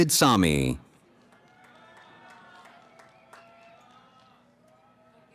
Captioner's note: cheering